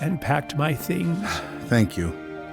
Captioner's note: sighs